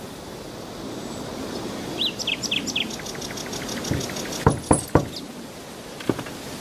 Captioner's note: knocking on the door